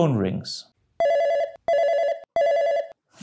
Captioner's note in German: Telefon klingelt